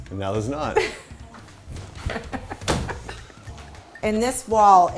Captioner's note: laughter